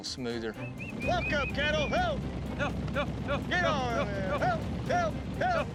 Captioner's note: yelling